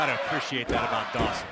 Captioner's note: fans chanting